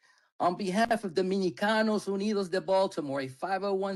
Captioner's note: speaking in Spanish